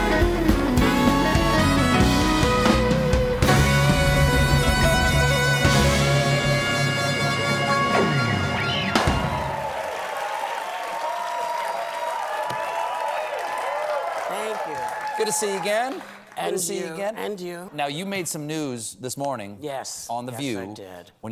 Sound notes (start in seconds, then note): 2.4 band playing; 2.4 cheers and applause; 14.9 cheering